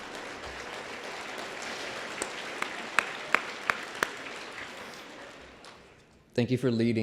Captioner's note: applause